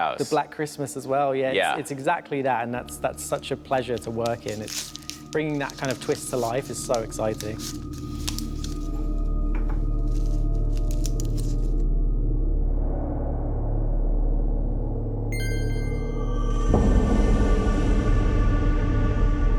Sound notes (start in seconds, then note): 7.5 suspenseful music; 15.3 chime